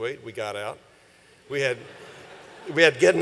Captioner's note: laughter